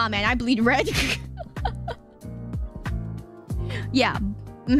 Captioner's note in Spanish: risa degenerada